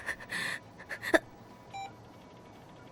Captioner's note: Shinji groaning; hospital machine beeps